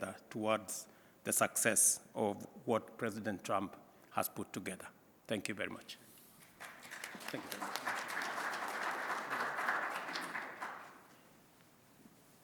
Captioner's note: applause